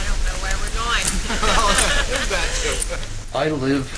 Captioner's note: laughter